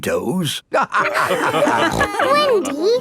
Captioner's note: all laughing